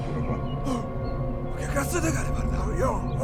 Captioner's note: speaking Triestin dialect